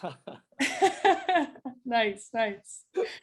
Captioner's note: laughs